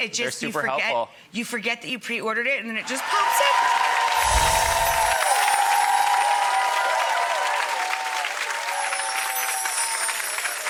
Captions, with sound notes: They're super helpful. You forget that you pre-ordered it and then it just pops in. (audience cheering)